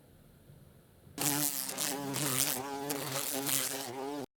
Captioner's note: bee sound